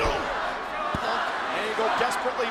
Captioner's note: audience chanting